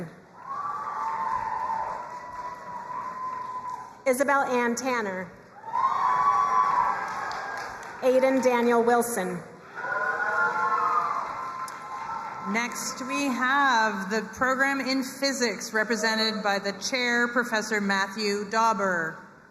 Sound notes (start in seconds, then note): 0.3 crowd cheering and applauding; 5.5 crowd cheering and applauding